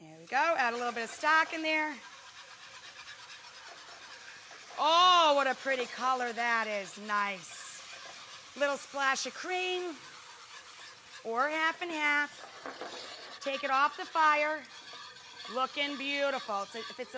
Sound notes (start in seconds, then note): 2.1 scratching and sizzling